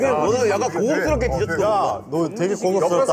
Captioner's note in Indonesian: semua berbicara